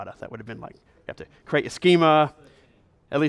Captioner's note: voiceover